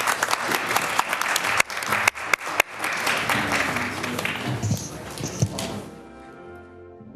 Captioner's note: applause